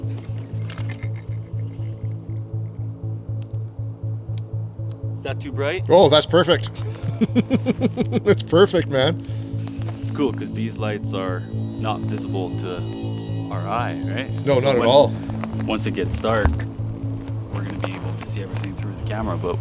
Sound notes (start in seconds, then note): 0.0 bell jingling; 6.5 laughs